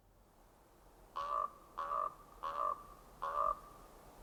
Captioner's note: raven squawking